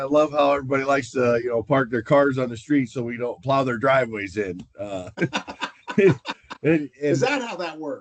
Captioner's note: laughter